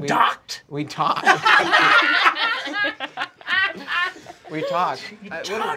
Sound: group laughing

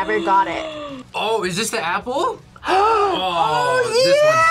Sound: gasps; gasps

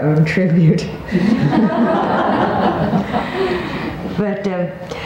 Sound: all laughing

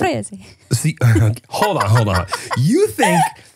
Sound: laughing

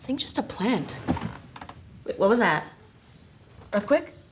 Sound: chair thumps

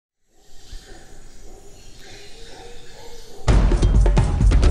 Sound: wildlife chirping; adventurous music

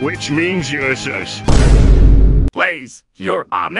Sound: Vine Boom

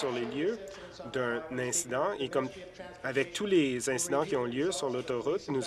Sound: applause

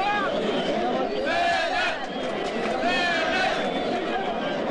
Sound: Rascals Fenerbahçe cheers

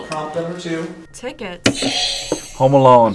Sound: buzzer rings

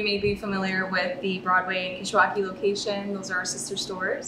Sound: speaking Spanish

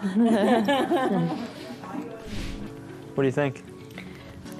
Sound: laughs

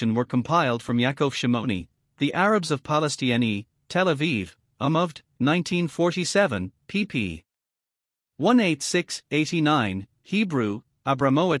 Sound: Hebrew

